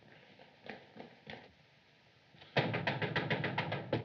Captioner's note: knocking